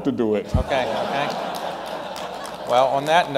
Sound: laughter and applause

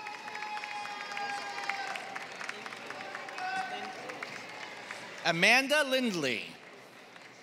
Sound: applause

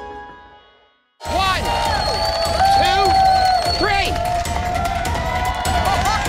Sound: cheering; laughs

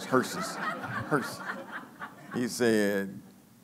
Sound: laughing

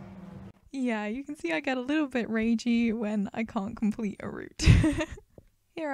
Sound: laughs

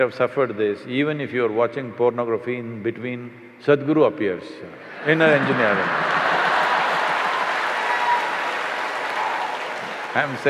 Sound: applause/Cheers

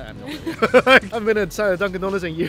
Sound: both laugh

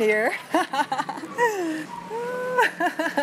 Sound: laughs

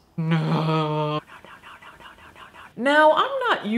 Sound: whispering

